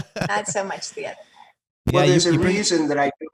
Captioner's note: laughs